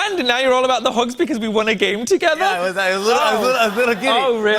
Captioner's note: laughter